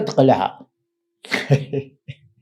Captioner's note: laughs